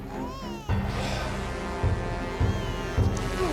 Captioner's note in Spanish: llanto de bebé